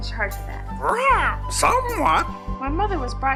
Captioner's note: צווחות